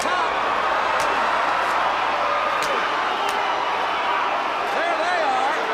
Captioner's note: crowd chatter